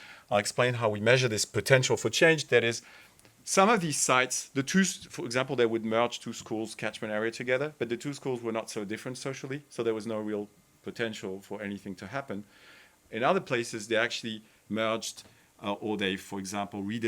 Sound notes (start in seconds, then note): none